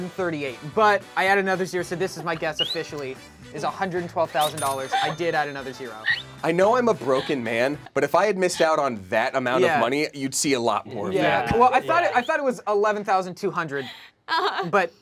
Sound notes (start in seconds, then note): 3.6 loud dinging